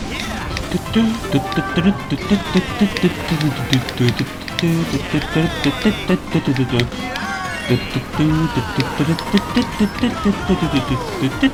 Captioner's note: humming along the course music